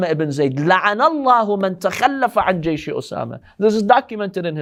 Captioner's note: Arabic